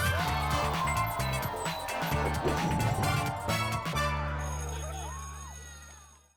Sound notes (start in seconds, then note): 2.7 children cheering